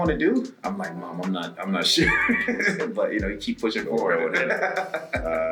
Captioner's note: laugh